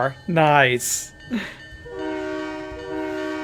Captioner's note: train whistle